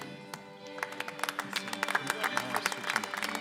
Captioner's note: applause